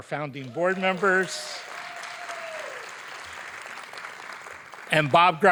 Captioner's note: audience applauding